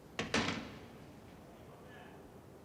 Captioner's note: door closes